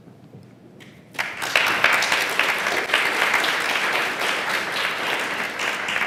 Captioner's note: applause